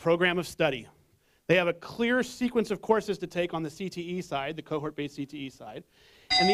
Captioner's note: bell